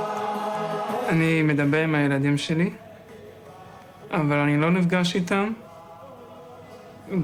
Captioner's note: young man speaking in foreign language